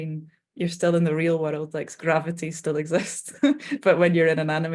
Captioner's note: chuckling